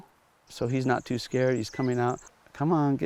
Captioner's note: birds chirping